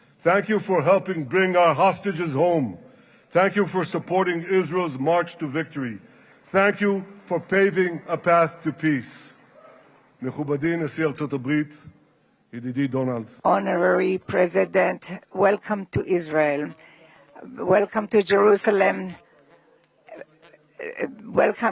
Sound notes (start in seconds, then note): 13.6 speaking Israeli